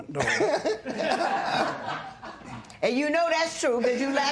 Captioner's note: laughter